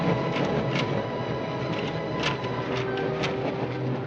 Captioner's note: lock rattling